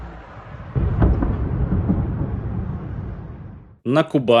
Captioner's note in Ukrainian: вибух